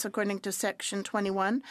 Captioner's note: speaking French